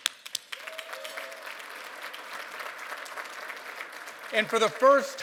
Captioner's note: applause